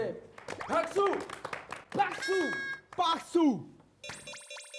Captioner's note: applause & shout